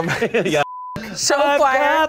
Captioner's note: beep